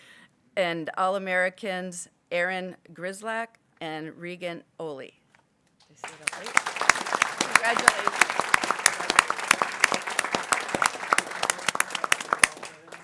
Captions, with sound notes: and All Americans, Aaron Grzelak and Reagan Olli. (people clapping) Congratulations.